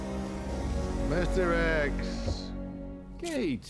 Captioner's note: scottish accent